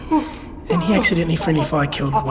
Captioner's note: gurgles of pain